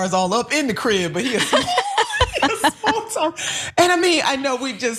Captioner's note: laugh